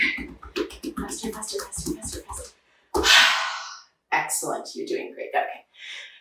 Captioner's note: sighs